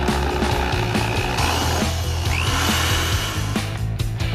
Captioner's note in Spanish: sonido de taladro